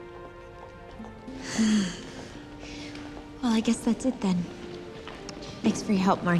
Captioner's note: sighs